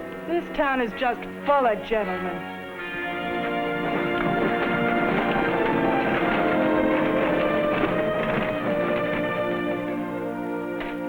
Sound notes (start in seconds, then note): 0.0 dramatic music; 3.5 dramatic music; 5.6 carriage rattling